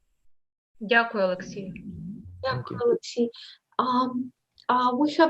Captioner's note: foreign Language